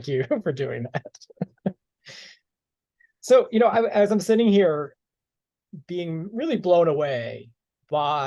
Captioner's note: laughter